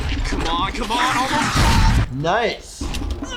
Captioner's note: wheelchair whooshes; missile explodes